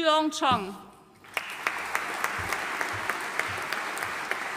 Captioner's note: audience applauding